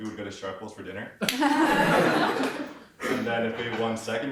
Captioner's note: audience laughs